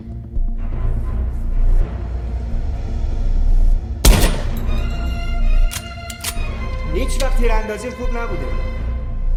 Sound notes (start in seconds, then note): 4.0 gunshot; 5.6 gun loading